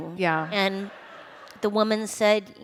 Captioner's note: laughter